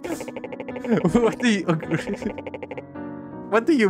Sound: laughs

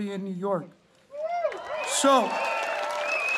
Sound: audience cheering

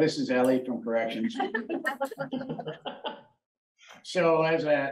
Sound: laughter

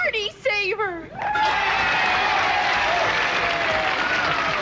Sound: loud cheering

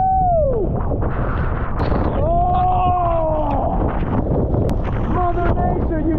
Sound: wind whipping; falls roaring

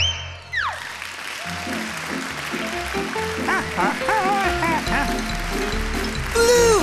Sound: applause

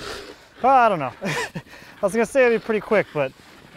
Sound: laughing

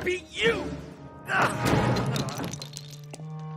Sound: yelling

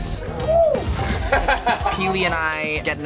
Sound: laughs

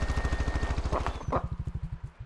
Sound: angry turkey goose noises

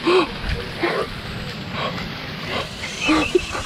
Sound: gasps; giggles

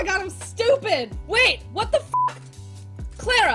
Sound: beep

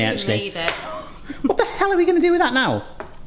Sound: laughing

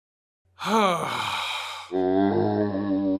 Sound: heavy sigh; zombie groan

